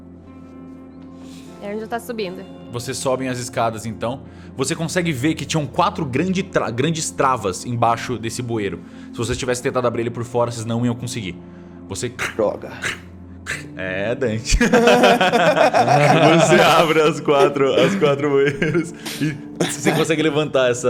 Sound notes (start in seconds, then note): 12.2 snaps; 14.4 laughs; 14.5 laughter